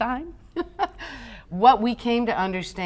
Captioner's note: laughs